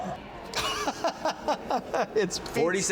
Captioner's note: laughing